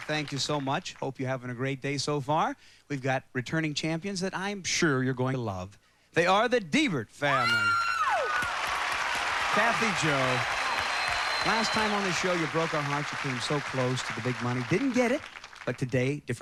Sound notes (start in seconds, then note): 8.7 cheering